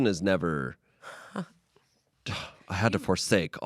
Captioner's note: laughs